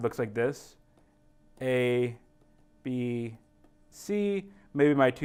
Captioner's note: pen tapping sound